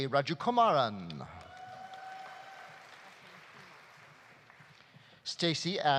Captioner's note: audience cheering; audience applauding